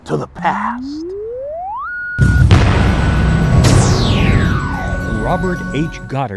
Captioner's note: sound Effects